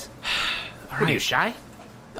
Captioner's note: sighs